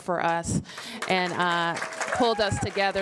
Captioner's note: applause